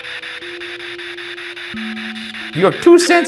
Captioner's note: spirit Box buzzing